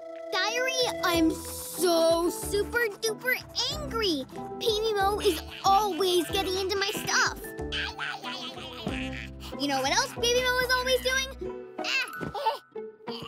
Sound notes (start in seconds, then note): 7.9 babbles